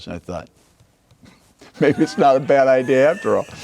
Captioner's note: laughing